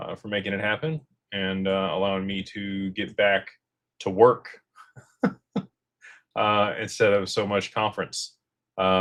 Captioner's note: laughter